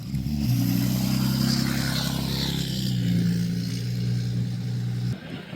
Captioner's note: engine revving